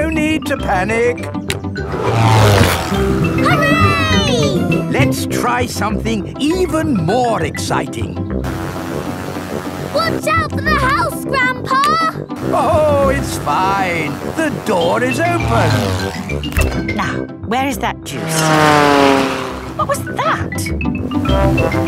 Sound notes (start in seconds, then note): 18.1 plane flies